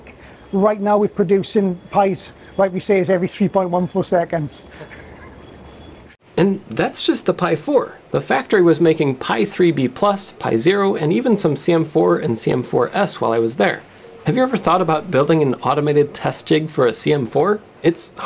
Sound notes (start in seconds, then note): 4.6 chuckles